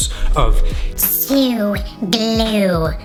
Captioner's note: distorted voice